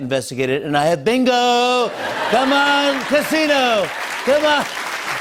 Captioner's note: laughter; applause